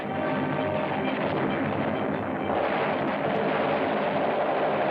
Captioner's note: explosions; heavy gunfire